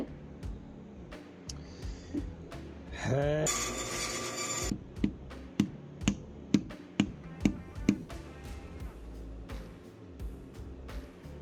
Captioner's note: angry noises; more angry noises